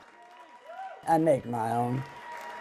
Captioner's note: crowd cheers